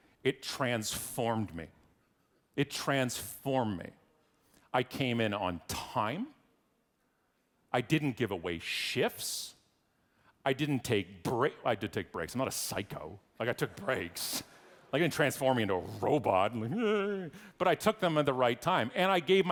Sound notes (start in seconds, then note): 13.6 audience laughing